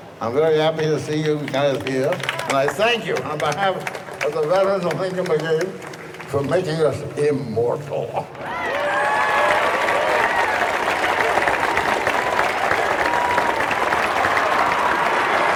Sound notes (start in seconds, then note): 8.3 audience cheering; 8.4 audience applauding